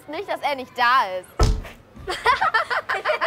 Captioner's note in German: Knall